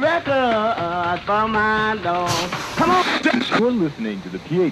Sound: radio Static

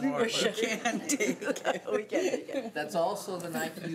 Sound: laughing

